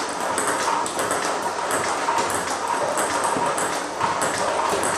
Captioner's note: ball ping pong hitting continues